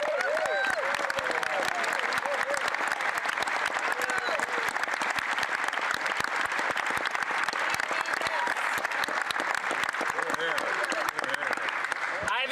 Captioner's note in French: applaudissements